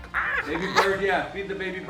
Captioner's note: squawking